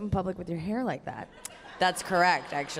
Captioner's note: audience laughter